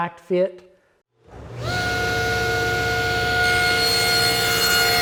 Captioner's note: blade cutting